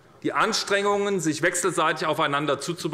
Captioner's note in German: none